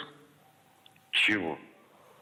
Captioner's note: speaking Russian